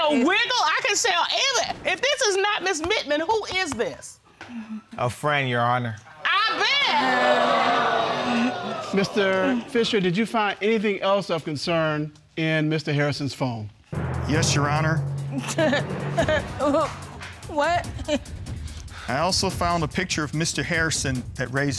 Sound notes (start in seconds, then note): 7.9 audience exclaiming; 15.7 laughs sarcastically